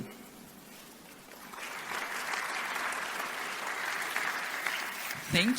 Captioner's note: audience applause